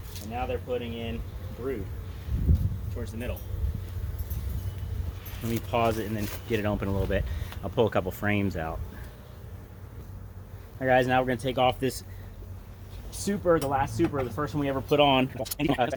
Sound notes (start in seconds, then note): 3.0 wind chimes; 3.7 bees buzzing